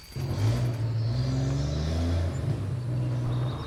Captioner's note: engine revs